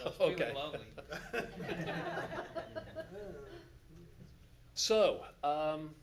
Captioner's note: audience laughs